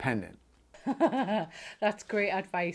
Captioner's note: laughing